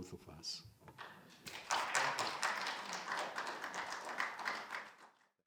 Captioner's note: audience clapping